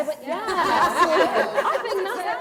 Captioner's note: laughter